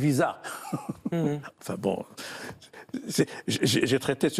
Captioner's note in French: il rit